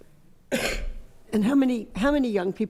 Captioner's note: coughs